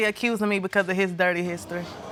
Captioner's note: audience murmuring